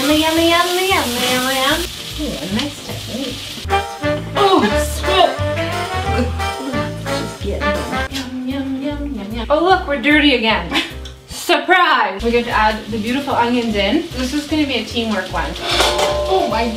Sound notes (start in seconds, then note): 4.2 funky music; 5.7 grunts